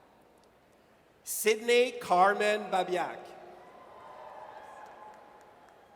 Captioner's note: audience cheers